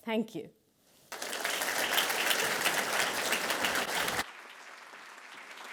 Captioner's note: attendees applauding